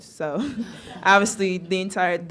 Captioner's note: laughing